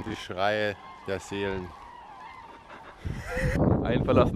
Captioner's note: laughs